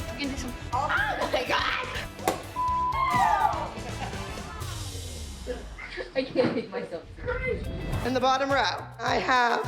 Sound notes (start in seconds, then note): 1.8 corks popping; 2.8 exclaiming; 4.3 laughing